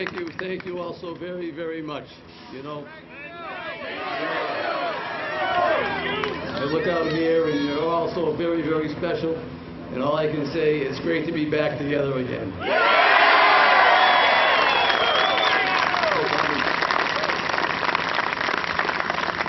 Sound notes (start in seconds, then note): 5.6 cheers and applause